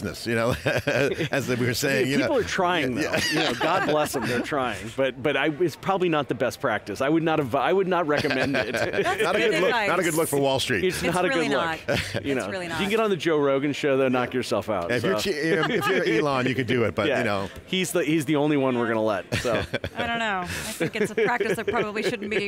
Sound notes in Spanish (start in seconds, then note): 0.4 risas; 3.3 Los anfitriones se ríen; 8.1 Risas; 15.4 se ríe